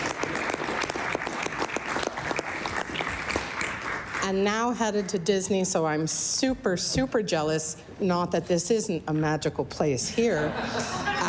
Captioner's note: applause